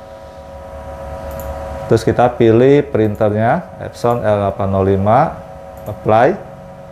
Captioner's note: clicking sound